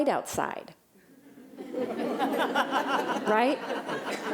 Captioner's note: laughter